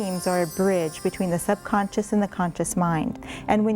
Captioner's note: bells chiming